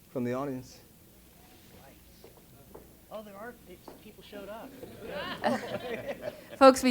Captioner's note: laugh